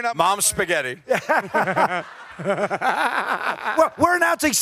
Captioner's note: laughter